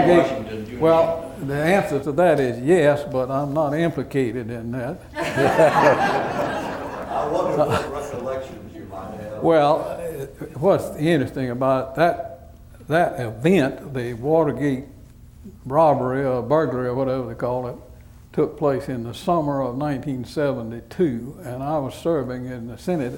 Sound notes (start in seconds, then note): 5.1 laughter